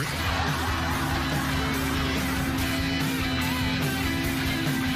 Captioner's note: laughing; engine roaring